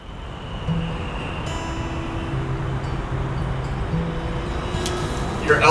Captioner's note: nature background; calm guitar music